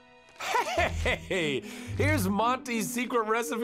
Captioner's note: Eugene chuckles